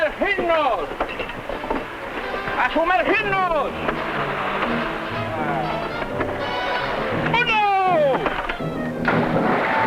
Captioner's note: speaking spanish